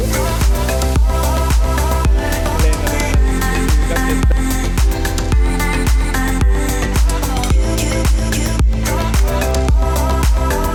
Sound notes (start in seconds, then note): 0.2 upbeat music; 3.4 man chatting; 7.9 upbeat music